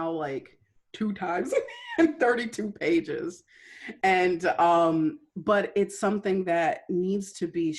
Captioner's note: laughter